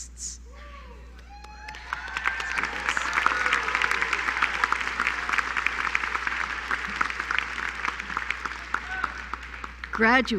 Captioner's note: applause